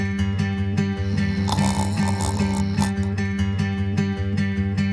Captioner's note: guitar music; snoring; guitar music